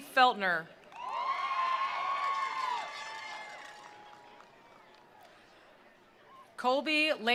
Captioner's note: attendees cheering; attendees applauding